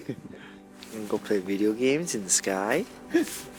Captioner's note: laughs